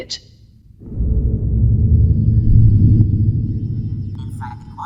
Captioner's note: deep booming sound